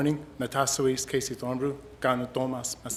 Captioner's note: speaking Indigenous language